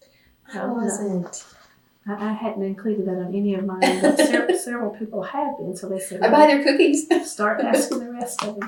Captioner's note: laughs